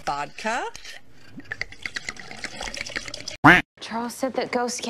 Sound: glug glug glug glug glug

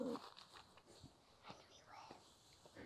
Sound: whispers

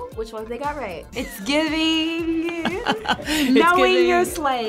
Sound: laughs

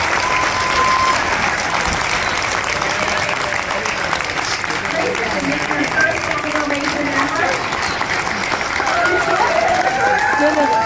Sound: applause

